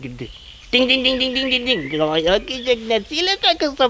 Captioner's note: makes phone ringing noises